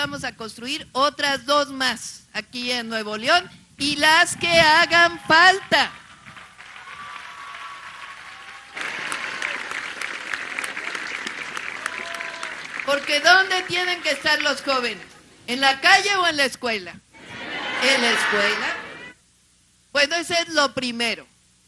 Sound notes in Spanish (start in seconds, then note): 9.1 aplausos